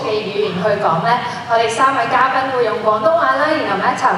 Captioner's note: our three guests will be using Cantonese